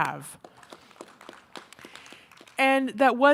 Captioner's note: and audience members clapping